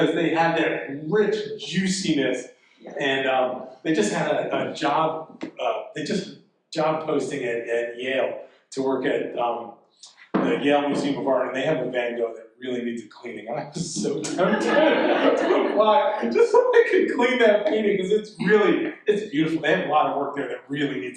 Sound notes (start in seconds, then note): 15.9 audience laughing